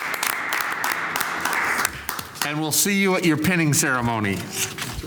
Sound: applause

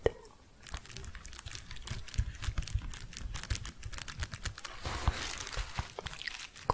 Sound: soft crinkling

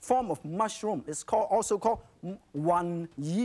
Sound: speaks in foreign language

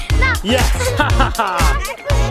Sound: guffaws

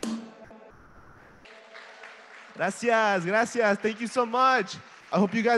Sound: applause

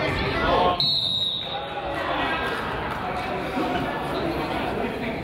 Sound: whistle blows

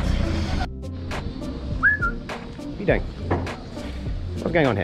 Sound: whistle

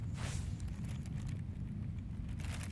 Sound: leaves crunching

